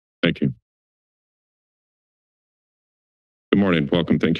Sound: silence

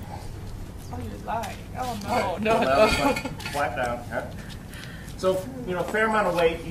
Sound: indistinct conversations

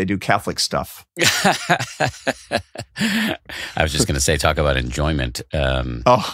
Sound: laughing

